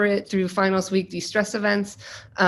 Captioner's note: none